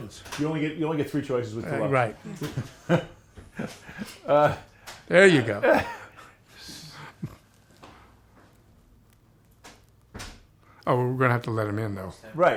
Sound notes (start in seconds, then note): 2.2 chuckles